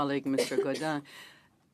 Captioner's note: speaking French